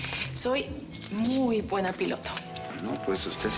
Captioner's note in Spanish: none